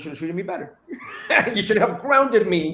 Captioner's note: soft laughter